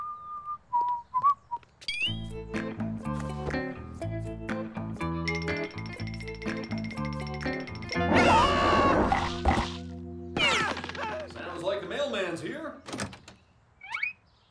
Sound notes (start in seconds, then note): 4.5 growling and screaming